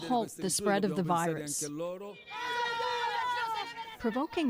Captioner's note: speaking italian